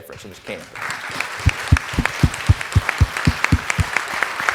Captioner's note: audience applauding